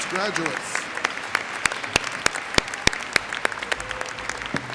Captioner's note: audience applauds